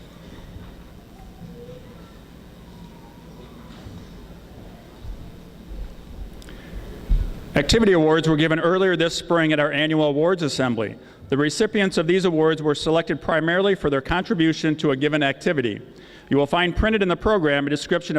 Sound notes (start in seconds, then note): none